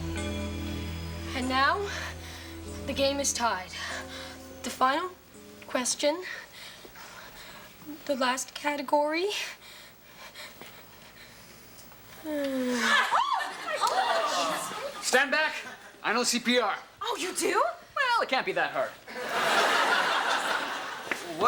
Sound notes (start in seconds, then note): 12.6 Ms. Attol screams; 19.1 audience laughs